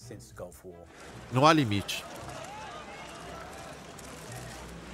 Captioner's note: loud chatter